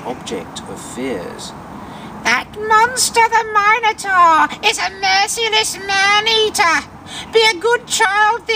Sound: old woman voice

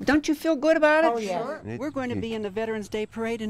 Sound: ladies agreeing

